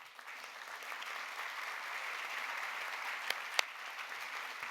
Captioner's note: audience applauding